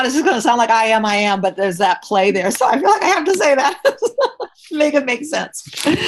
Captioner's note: laughs